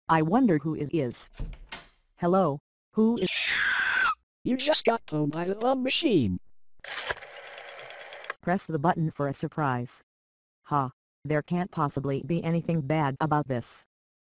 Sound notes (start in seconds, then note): 1.3 door opening; 3.2 s c r e e c h